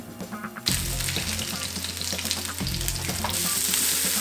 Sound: sizzling

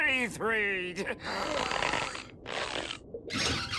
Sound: breathing heavily; gasping

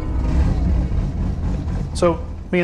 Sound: soft music; car engine revving

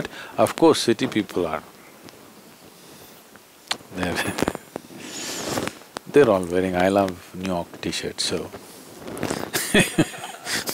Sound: laughs

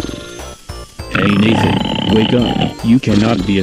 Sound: Nathan continues snoring

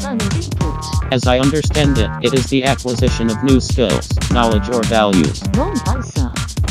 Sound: female robot voice; male robot voice; female robot voice

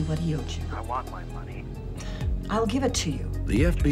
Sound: on phone

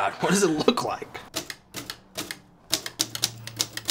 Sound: keeps on typing

